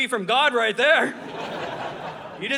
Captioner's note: audience laughing